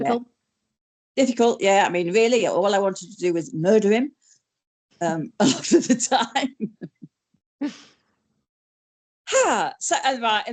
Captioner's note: laughs